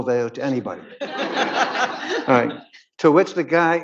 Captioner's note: audience laughing